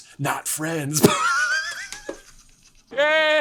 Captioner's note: laughs uproariously